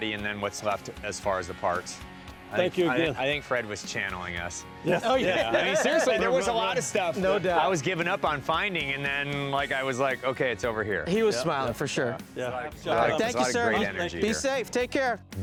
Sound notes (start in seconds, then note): 4.8 laughs